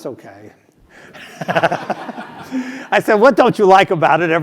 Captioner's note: laugh